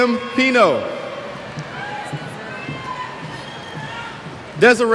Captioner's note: cheers